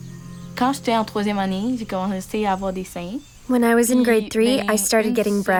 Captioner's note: speaking French with translation